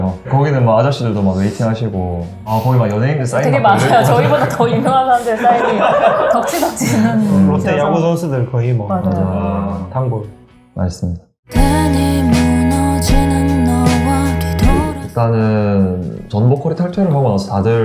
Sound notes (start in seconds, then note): 7.9 laugh